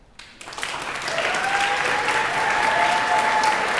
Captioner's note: applause